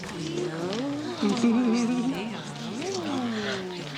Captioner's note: chattering